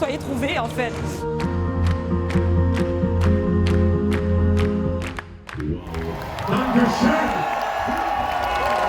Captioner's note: applause; cheering